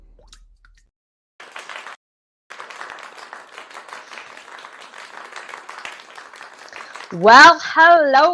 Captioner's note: clapping